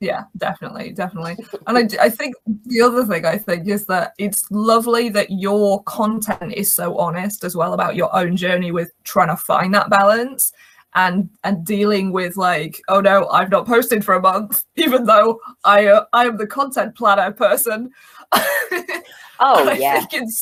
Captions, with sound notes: - Yeah, definitely. And I think the other thing I think is that it's lovely that your content is so honest, as well about your own journey with trying to find that balance. And dealing with like, oh, no, I've not posted for a month, even though I am the content planner person (laughs). - Oh, yeah.